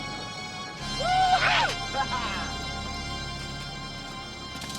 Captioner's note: men shouting